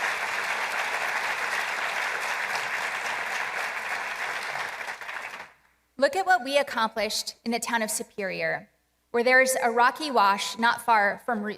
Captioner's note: applause